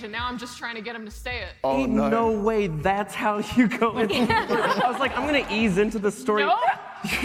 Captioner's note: laughter